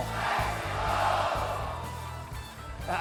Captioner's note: crowd